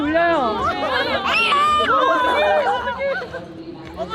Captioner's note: cries so sadly